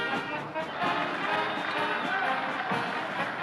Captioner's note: marching band playing; cheers and applause; marching band playing